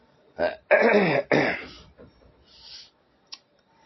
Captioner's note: coughs; clears throat